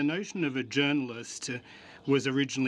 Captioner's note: speaking French